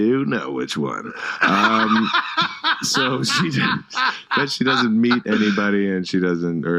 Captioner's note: laughs